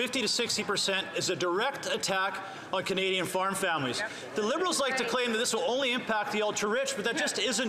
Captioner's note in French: voix de l'interprète